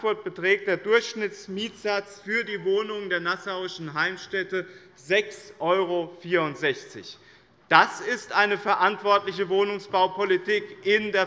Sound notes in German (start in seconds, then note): none